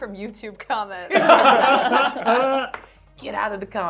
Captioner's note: laughing